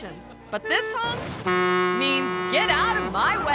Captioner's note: truck horn honks